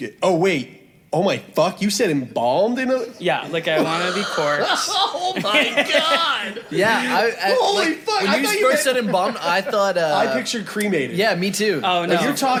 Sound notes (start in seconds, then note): 2.3 laughs; 6.1 laughs